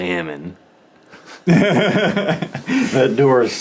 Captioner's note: laughing